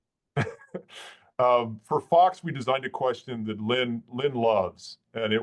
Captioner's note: laugh